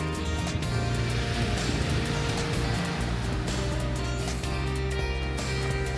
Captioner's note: wind blowing